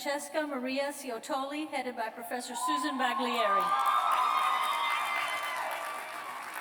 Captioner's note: cheers